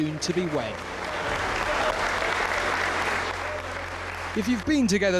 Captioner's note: audience applauds